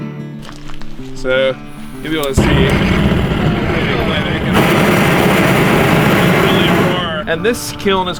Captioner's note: loud blow torch